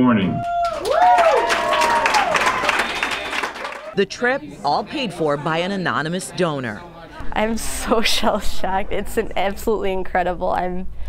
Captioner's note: applause